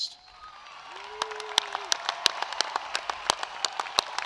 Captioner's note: applause